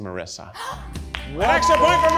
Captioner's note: gasps